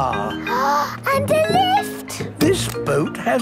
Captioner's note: gasps